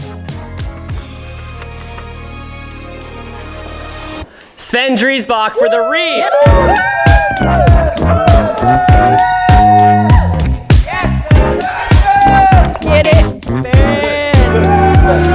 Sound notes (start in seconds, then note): 0.0 inspirational music; 5.0 all cheering; 6.0 upbeat music